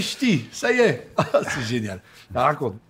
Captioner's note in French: Rires